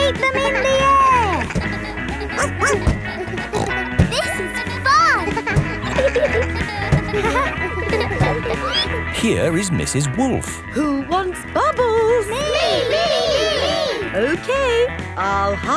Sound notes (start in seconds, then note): 2.4 snorts; 2.8 barks